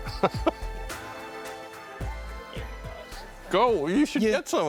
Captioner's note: laughing